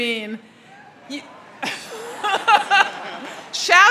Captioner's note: crowd cheers